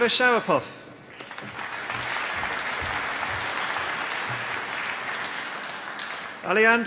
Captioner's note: applause